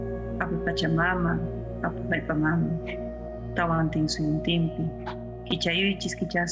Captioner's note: person speaking in foreign language